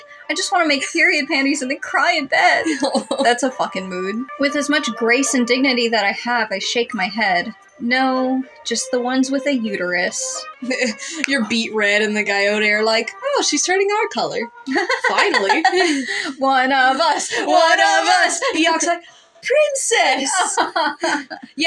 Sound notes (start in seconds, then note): 2.4 chucklling; 10.6 chuckle; 14.6 laugh; 20.3 groaning Laugh